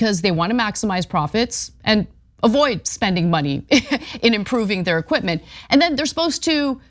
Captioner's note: laugh